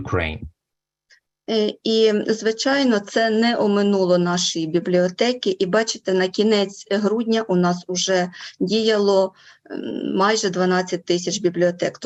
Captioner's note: foreign Language Spoken